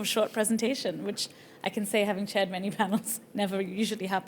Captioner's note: chuckles